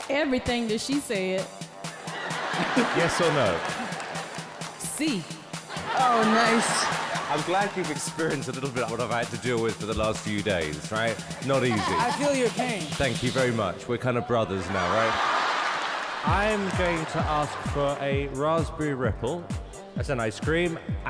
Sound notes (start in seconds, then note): 1.9 audience laughter; 14.4 audience laughing